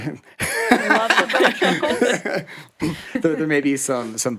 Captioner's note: laughs